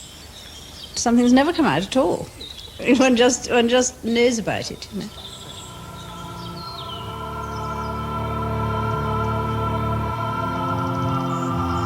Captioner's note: laugh